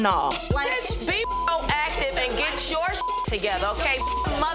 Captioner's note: beep